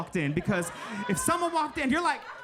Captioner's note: audience laughing